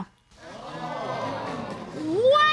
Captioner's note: audience exclaims